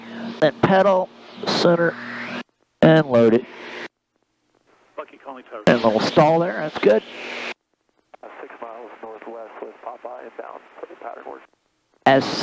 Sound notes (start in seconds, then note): 4.8 radio chattering